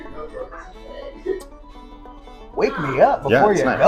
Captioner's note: irish traditional music; patrons talking; smacks lips